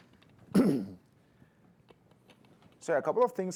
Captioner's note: ahem